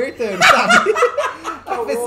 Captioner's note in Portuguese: risadas